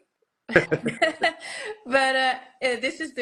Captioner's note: both laugh